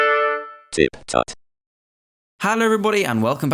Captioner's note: trumpet fanfare; electronic voice